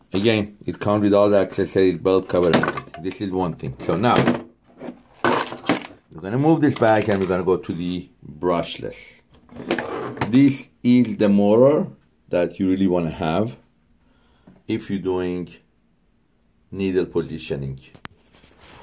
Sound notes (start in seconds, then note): 5.0 machine parts clanging